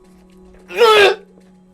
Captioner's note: sneeze?